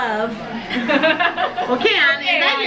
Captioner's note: laughs